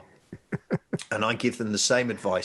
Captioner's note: laughing